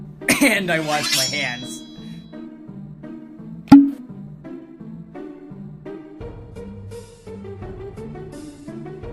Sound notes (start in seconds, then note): 3.7 pop